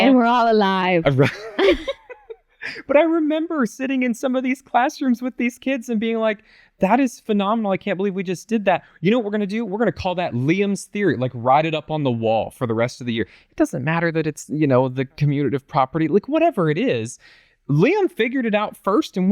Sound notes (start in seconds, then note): 1.1 laughter